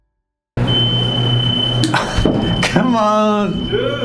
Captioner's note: elevator closing